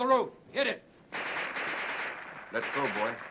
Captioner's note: guns firing